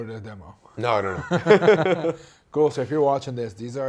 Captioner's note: both laughing